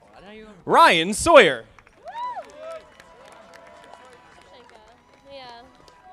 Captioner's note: audience applauding